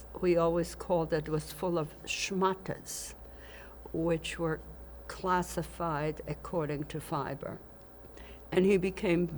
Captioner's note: yiddish